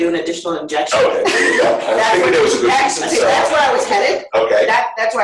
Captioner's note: laughter